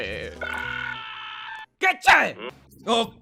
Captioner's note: screaming ringtone